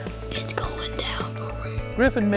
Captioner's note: whispering